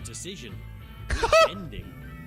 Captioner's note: laughs